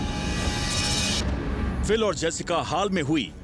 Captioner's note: narrating